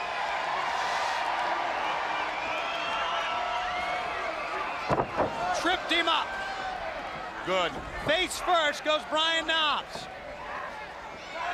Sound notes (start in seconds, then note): 0.2 crowd cheering; 1.4 crowd chatter; 9.5 crowd chatter